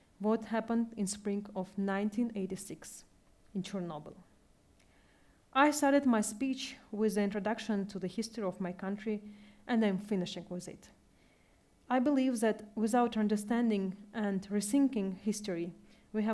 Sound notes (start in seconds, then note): none